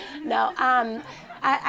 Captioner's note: laughter